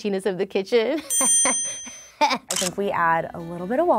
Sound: laughs

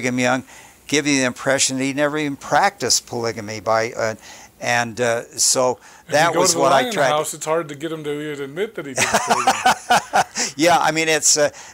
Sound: chuckling

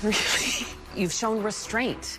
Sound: gasps

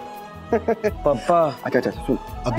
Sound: laughing

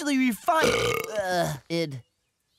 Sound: belching

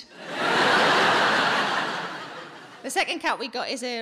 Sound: audience laughing

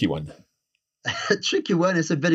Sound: laughs

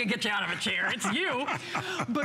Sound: laughter

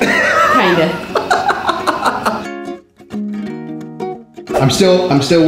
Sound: laughing

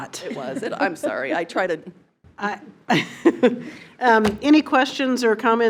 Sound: nervous laugh

